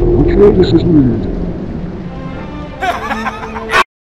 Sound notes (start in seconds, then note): 2.8 laughing